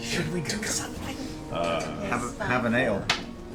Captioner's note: whispers